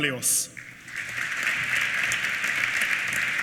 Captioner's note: applause